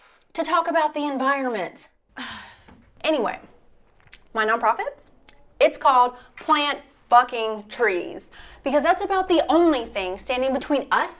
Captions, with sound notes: To talk about the environment. [SIGH] Anyway, my nonprofit. It's called Plant Fucking Trees because that's about the only thing standing between us